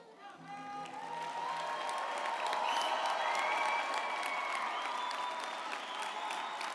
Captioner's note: audience applauding and cheering